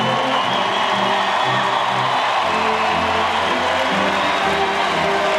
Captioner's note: audience cheering and applauding